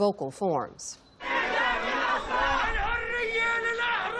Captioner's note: chanting